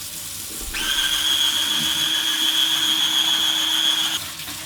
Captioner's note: water running; machine whirring